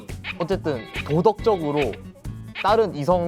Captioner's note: Scratch